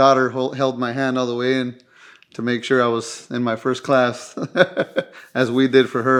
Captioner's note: laughing